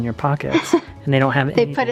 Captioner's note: laughs